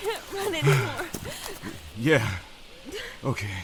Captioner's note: panting